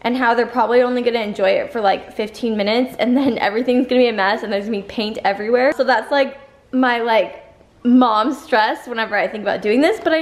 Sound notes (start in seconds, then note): none